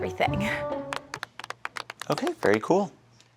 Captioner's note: audience lightly applauding